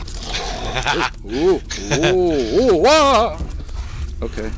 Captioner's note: laughing